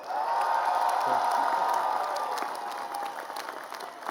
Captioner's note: cheering and applause